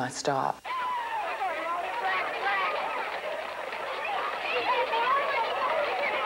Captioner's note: shouting